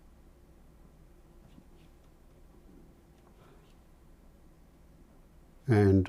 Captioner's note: silence